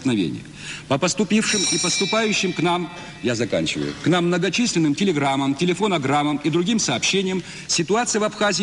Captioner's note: a bell sounds to indicate he has overrun his allocated time